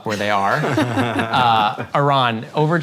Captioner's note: both laugh